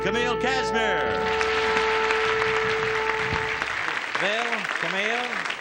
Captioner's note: audience cheers